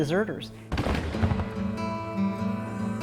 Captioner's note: gunshots